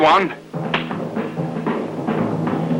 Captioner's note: gun clicks; dramatic music